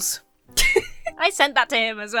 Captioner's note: giggles